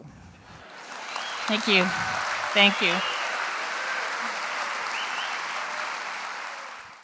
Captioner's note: applause; cheering